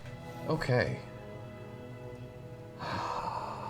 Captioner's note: sighs